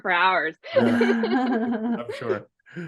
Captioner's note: laughs